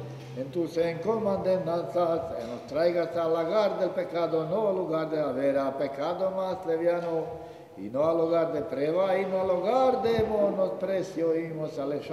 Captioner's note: in ladino